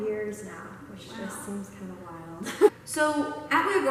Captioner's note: laughs